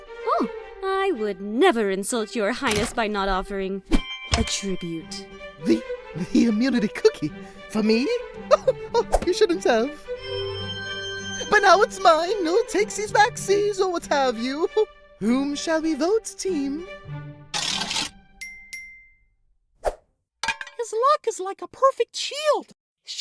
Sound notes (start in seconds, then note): 10.2 shimmer; 18.4 ding ding!